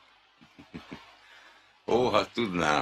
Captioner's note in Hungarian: kis nevetés